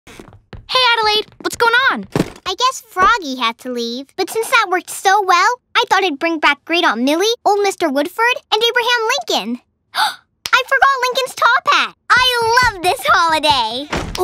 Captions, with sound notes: - Hey, Adelaide! What's going on? (door shuts) - I guess Froggy had to leave, but since that worked so well, I thought I'd bring back Great Aunt Millie, old Mr. Woodford, and Abraham Lincoln! (gasps) I forgot Lincoln's top hat! I love this holiday!